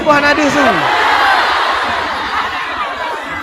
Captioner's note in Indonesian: bersorak